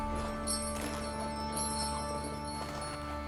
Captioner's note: bell jangling